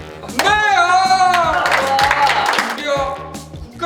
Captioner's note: clapping to start the show